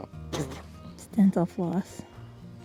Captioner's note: spitting